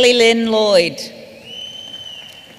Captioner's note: none